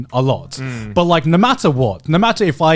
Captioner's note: affirmative murmuring